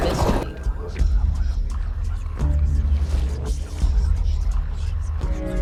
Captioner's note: eerie whispering